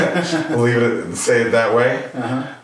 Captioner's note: laughs